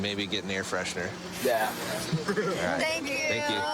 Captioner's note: laughs